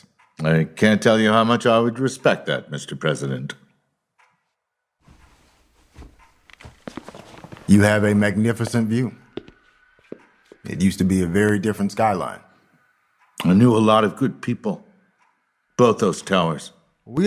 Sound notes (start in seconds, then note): 9.3 footsteps